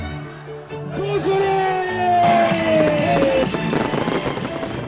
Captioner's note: shouts